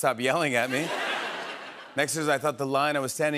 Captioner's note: laughter